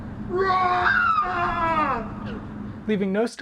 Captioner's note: yelling